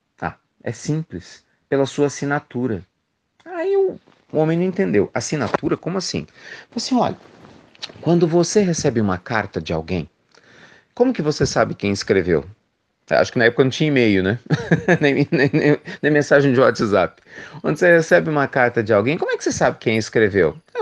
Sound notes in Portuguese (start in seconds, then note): 14.4 risos